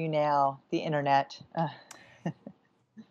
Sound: laughter

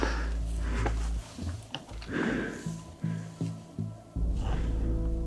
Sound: breathes heavily

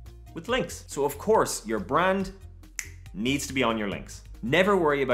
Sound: snap

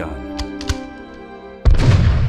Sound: gunshot

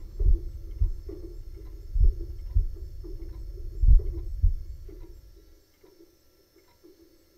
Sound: clock ticks rhythmically; heartbeat thuds slowly

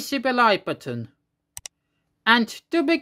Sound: click sound

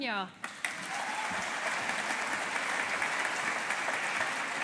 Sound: audience applauding

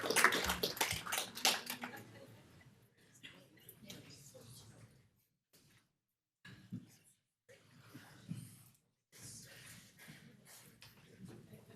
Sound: applause

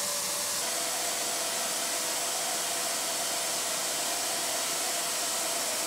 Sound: vacuum cleaner whirring

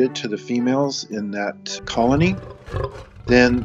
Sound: roaring

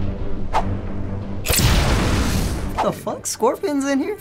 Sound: dramatic music; explosion

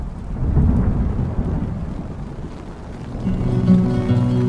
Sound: rain dropping; soft music

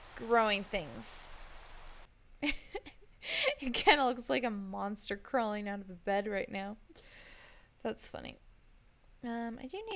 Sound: laughs

